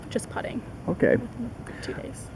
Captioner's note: Vietnamese